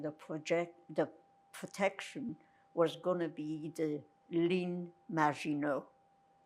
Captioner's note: french